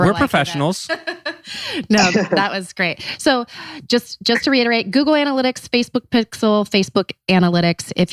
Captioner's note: laughs